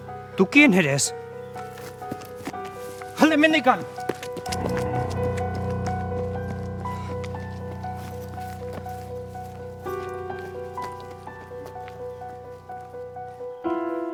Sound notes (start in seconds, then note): 3.1 in Basque; 8.6 tense music